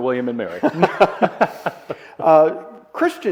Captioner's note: both laugh